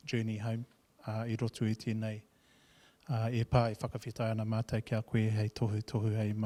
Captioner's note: speaking in foreign language